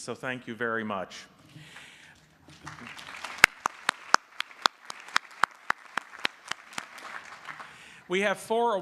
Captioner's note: applause